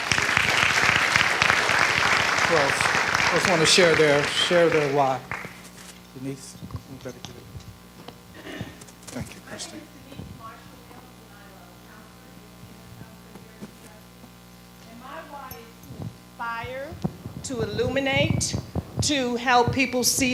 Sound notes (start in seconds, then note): 0.0 audience clapping; 10.4 speaking off mic